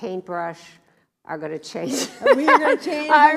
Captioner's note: laughs